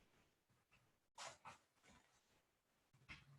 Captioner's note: none